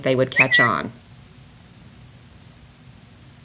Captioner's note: whistle